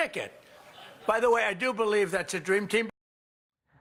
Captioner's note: laughter